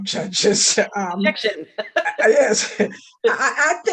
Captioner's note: laughing